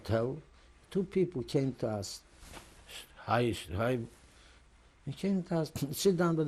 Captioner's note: german